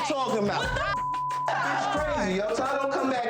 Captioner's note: beeps